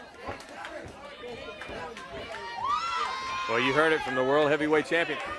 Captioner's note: crowd chatter